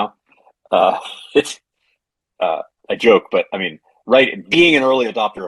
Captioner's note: laughs